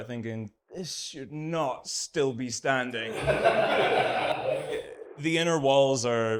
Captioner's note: audience laughs